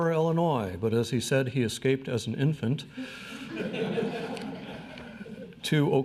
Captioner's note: crowd laughs